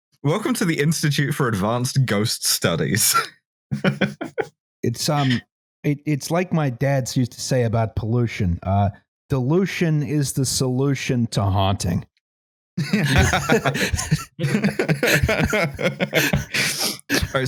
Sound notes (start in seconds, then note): 3.7 laughs; 12.8 laughter